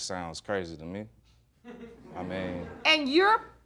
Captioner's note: audience laughs